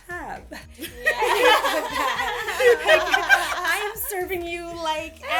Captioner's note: laughter